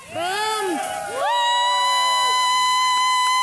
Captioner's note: cheering and applause